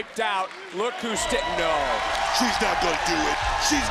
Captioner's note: crowd cheering